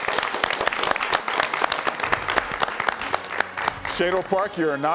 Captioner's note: all applauding